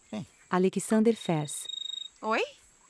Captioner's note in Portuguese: Celular tocando